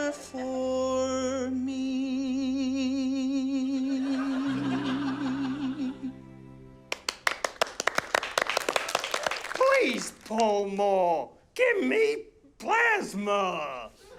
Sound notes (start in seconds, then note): 6.9 scattered applause